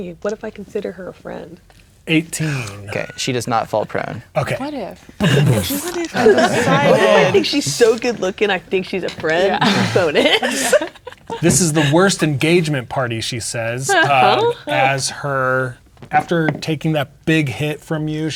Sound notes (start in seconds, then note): 5.2 players talking and laughing; 5.5 imitates explosion